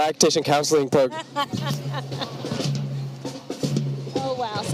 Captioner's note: snare and bass drumming continues; laughing; snare and bass drumming continues